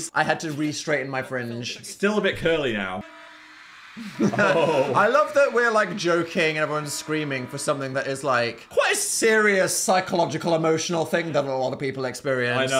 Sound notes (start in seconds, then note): 3.2 crowd screaming; 3.2 horn blaring